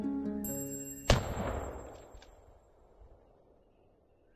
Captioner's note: gunshot